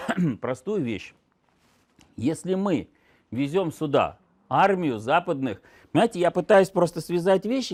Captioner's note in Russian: откашливается